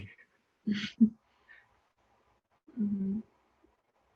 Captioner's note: both laugh